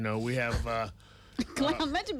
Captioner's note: host chuckles